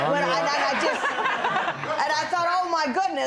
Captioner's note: laughter